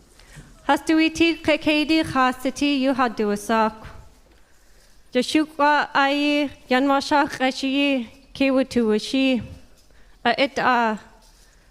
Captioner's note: speaking native language